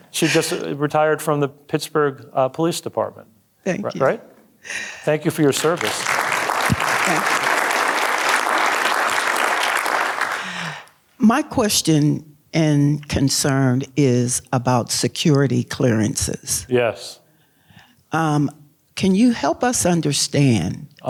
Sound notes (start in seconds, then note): 5.3 audience applauding